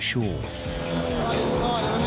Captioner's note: engine whirring